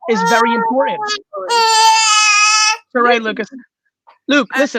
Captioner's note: crying